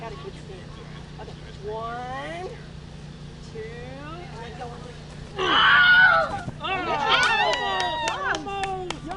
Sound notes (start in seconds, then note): 5.4 screams; 7.2 applause